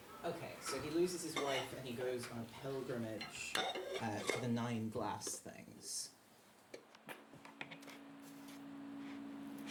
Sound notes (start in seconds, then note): 3.2 bowls clacking; 9.4 hair brushing. Low, slow-moving, metallic chords